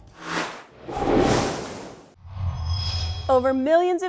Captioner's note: sound effects